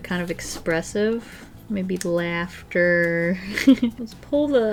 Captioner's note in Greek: χαχανητά